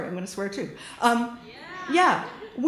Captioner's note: crowd responds in affirmation "yeah!"